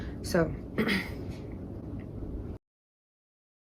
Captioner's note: clears throat